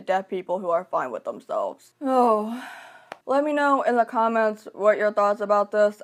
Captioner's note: sighs